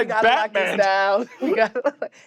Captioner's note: chuckles